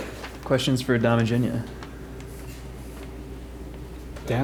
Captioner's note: voiceover